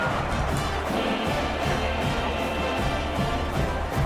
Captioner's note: crowd Noises